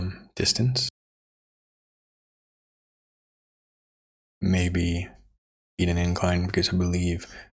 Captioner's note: silence